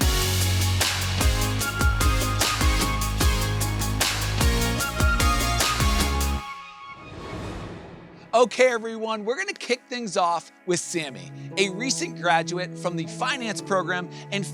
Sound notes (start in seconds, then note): 0.0 bright music continues; 6.7 logo whooshes